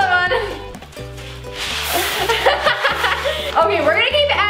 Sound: beads falling

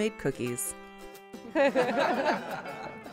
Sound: laughing

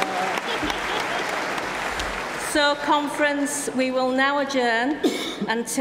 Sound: applause

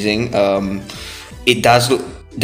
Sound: inhales

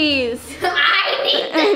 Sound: laughter

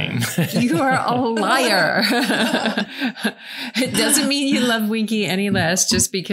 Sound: laughing

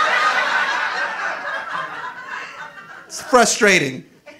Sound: audience laughing

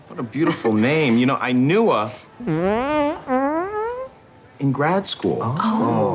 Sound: farts

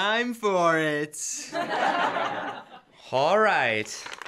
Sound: laughter

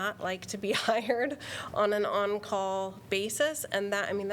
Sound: laughter

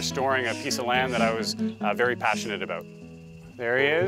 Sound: bird calls

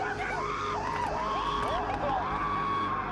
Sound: screams

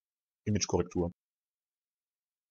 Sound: fast Pronunciation

